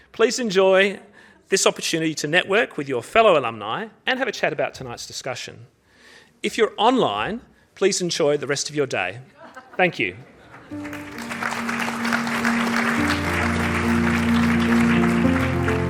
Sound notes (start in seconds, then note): 10.2 audience laughing; 10.6 audience applauding; 10.7 gentle music